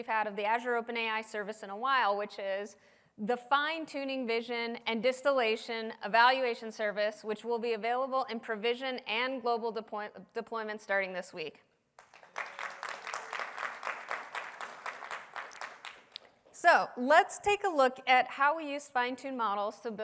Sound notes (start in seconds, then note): 11.9 applause